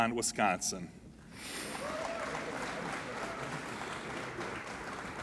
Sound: applauding

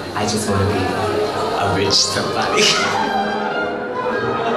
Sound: laughs

